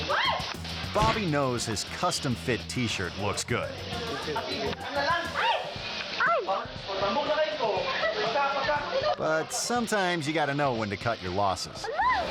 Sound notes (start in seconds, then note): 0.0 air whoosh; 0.3 yelling; 4.3 people speaking in a foreign language